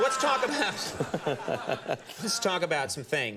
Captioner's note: laughs